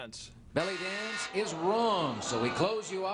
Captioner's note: buzzer beeps